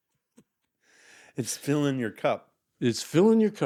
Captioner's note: laughing